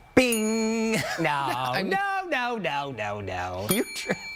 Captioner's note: bell ringing